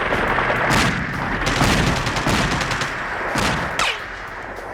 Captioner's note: gunshots booming